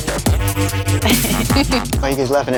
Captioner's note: laughter